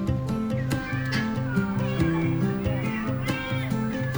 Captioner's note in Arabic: مواء القطط